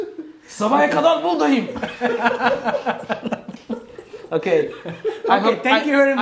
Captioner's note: Gülüşmeler